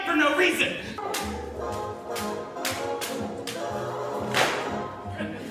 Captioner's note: fans tapping; audience laughs; fans click